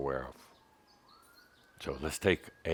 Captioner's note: sirens can be heard in the background